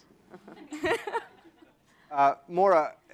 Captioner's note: laughter